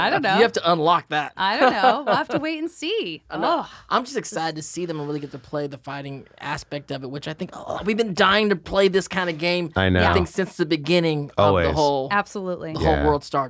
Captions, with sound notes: -You have to unlock that. -I don't know. We'll have to wait and see. [she sighs] I'm just excited to see them and play the fighting aspect of it, I think-- We've been dying -to play this kind of game-- -I know. since the beginning of-- the whole world started.